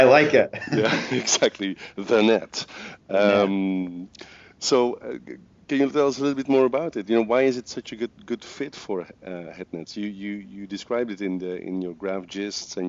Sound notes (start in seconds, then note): 0.1 laughs